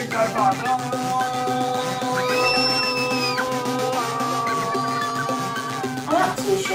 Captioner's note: yells and screams